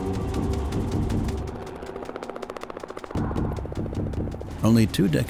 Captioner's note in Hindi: हेलिकॉप्टर की आवाज़ और ख़तरे का अंदेशा देता संगीत जारी रहते हैं